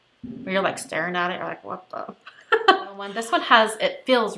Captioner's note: laughs